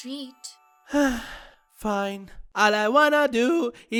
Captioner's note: sighs